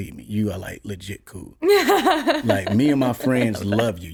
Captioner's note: laughs